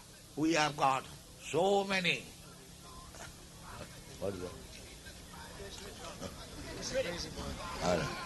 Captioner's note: man yelling in background